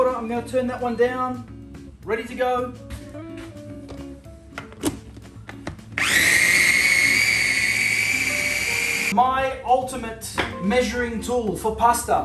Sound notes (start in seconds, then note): 5.9 blender grinding